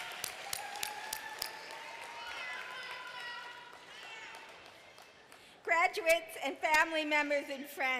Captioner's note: applause